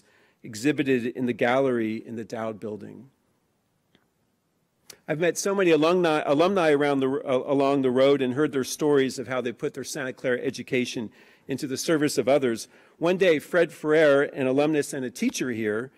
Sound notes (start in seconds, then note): none